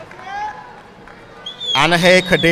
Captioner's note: audience cheering and applauding; audience member whistles